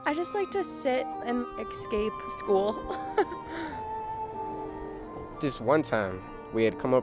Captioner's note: chuckles